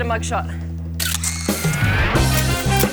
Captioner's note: Snap-o-Matic 5000 groans to life